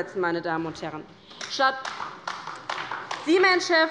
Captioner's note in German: Beifall bei der LINKEN